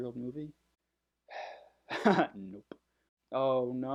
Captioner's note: sigh